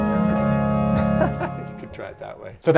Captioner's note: laughs